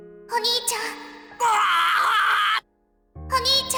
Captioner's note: pained cry